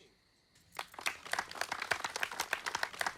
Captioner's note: clapping